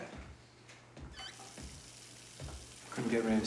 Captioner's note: running water